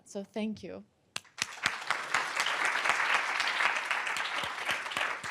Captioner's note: applause